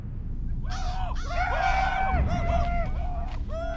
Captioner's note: men whooping